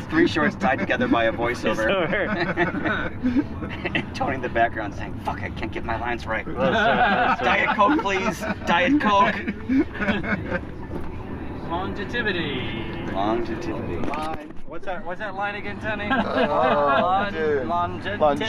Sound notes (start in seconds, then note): 2.1 laughing; 9.6 laughing